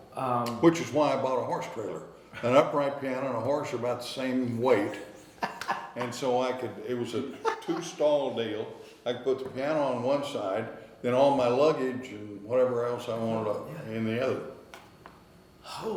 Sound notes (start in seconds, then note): 5.1 interviewer laughing